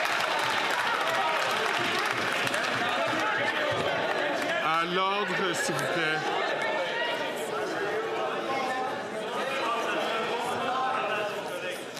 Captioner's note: some Applause